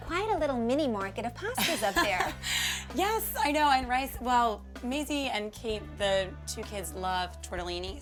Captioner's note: laughter